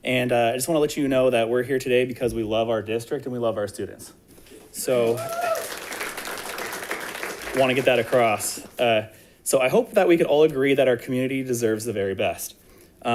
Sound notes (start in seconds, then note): 4.9 audience applauds